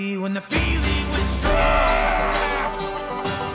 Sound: screams

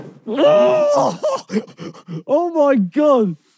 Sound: groaning

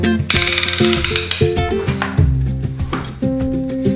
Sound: gear cranking

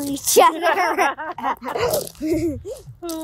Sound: laughing

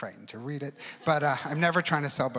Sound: audience laughs

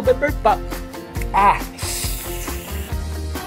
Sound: winces

